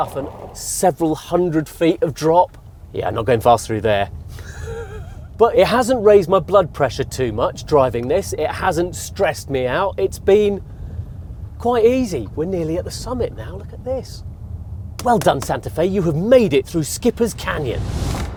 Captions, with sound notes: and several hundred feet of drop. Yeah, I'm not going fast through there. (LAUGHS NERVOUSLY) But it hasn't raised my blood pressure too much, driving this. It hasn't stressed me out. It's been quite easy. We're nearly at the summit now. Look at this. Well done, Santa Fe. You have made it through Skippers Canyon.